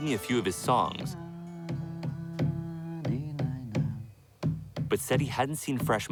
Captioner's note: chanting in Spanish